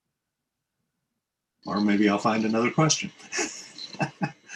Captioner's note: laughs